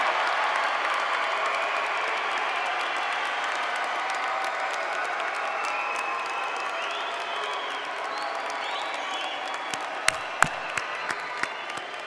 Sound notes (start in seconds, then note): 0.0 cheers and applause